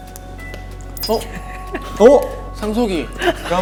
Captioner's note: just laughing